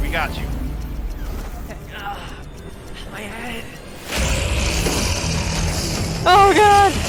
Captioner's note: engine revving